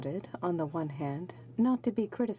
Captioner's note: speaking in french